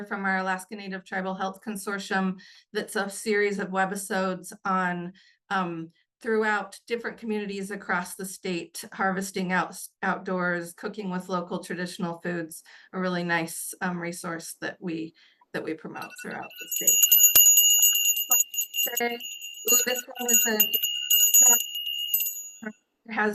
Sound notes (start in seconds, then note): 16.0 bell jingling; 18.4 bell continues jingling; 19.1 audio buzzing